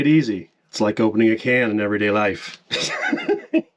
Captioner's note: laughs